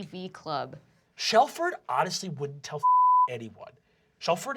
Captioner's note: nasally